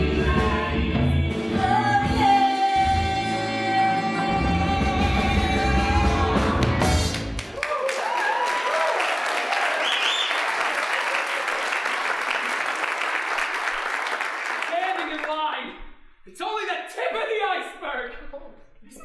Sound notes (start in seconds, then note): 0.0 both singing; 0.3 upbeat blues music; 7.0 applause, cheering